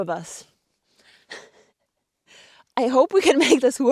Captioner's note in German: lacht